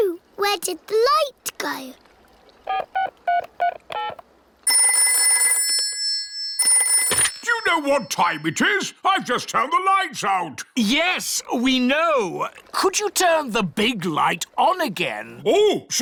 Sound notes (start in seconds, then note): 3.0 dialing; 4.7 rings